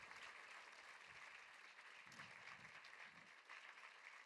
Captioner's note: applause